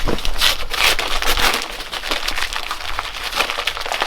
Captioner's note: paper rustling